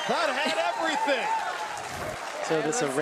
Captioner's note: audience cheers